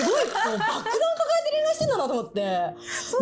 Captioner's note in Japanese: 笑い